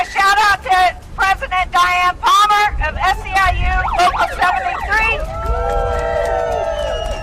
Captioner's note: applause